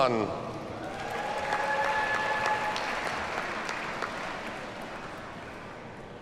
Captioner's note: audience cheers and applauds